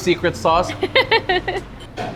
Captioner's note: laughs